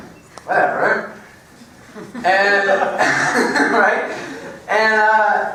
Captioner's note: laugh